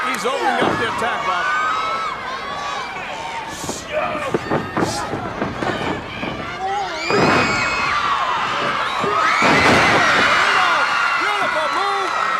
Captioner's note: crowd cheering